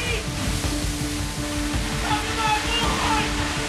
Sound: water rushing

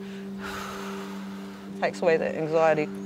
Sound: exhales air

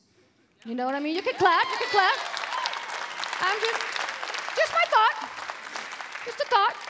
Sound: applause

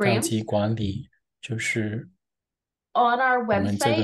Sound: interpreter speaking in foreign language

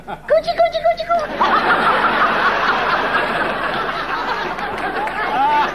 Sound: audience laughing

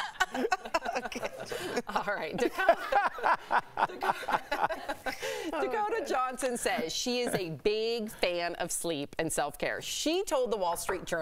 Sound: laughter

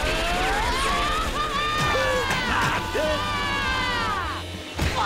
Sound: grunting

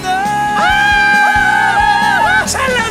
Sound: squealing

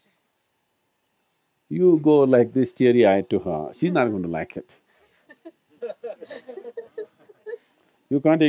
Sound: few laughs

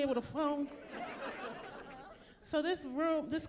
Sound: laughing

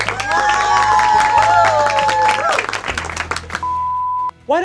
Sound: audience cheers; beep

